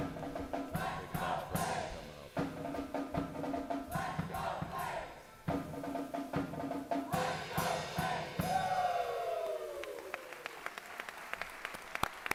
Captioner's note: applause